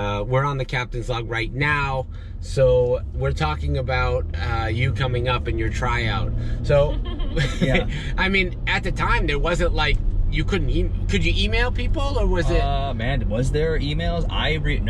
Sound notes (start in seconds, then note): 6.7 laughing